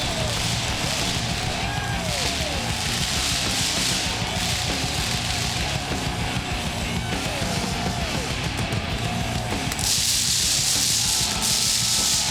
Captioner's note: crowd cheering